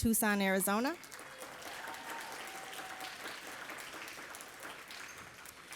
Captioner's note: audience applauding